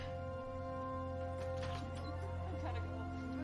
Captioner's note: door opens